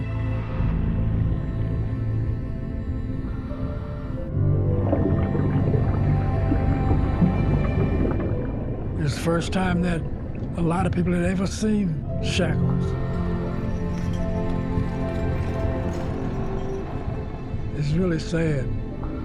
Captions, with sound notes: [bubbles burbling] It was the first time that a lot of people had ever seen shackles. [shackles clanging] It's really sad.